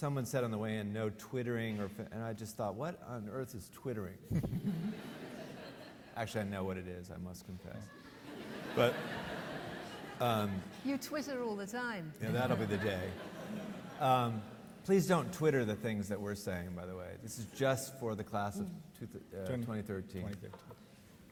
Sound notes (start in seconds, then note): 4.3 laughs; 4.4 audience laughing; 7.7 audience laughing